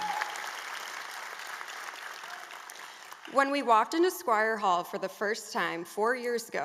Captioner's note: applause